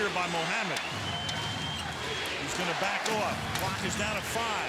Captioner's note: crowd chanting "defense"